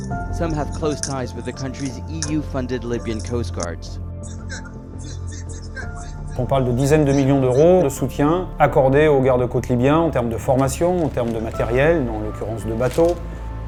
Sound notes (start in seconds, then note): 4.3 man yells in foreign language